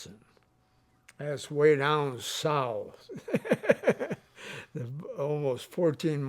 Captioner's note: laughs